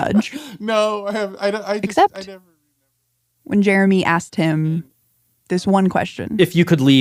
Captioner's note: laughs